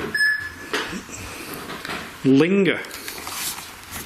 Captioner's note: beeping